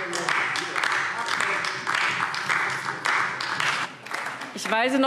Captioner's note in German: Beifall AfD - Zurufe DIE LINKE